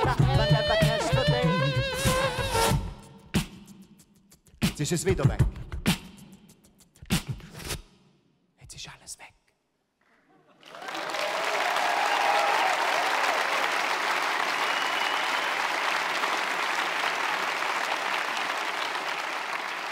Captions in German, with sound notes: Jetzt ist es wieder weg. (flüstert) Jetzt ist alles weg. *Jubel, Applaus*